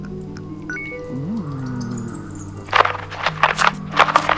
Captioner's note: bonus point chimes